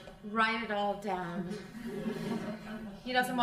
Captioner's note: crowd laughing